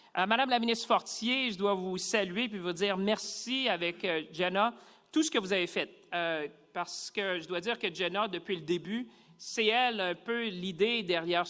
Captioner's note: speaking French